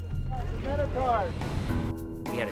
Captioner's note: chattering